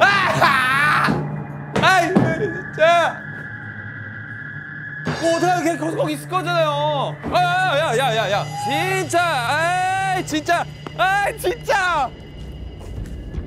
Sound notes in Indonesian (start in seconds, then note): 0.0 Menangis